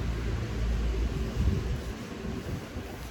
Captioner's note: wind gusts